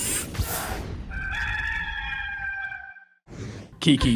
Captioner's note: rooster crowing